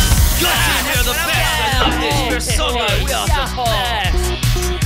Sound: cheering

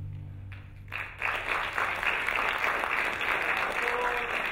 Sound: applauding

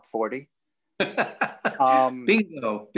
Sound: laughing

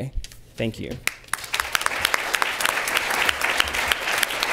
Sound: applause

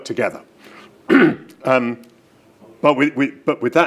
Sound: clears throat

